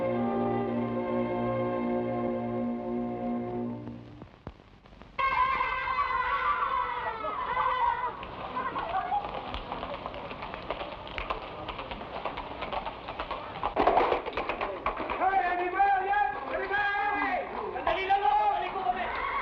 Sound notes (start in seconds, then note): 5.3 boys shout; 9.4 horse hooves patter; 15.4 men shout in Tagalog; 19.2 horses neigh